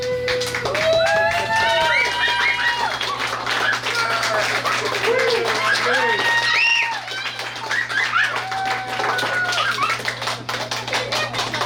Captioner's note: cheering & Clapping